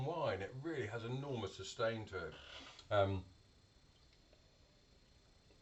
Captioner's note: slurping